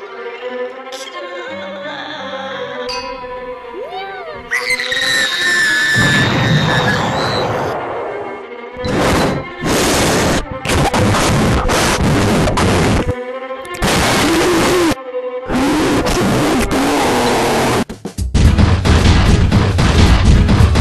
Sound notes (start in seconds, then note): 4.4 screaming; 18.4 exploding footsteps